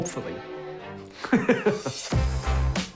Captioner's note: both laugh